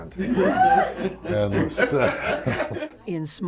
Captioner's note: laughter